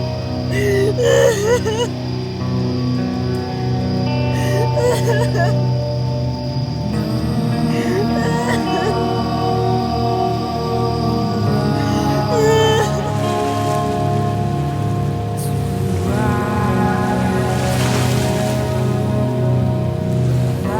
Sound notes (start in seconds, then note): 6.8 solemn rock music continues; 13.2 waves crashing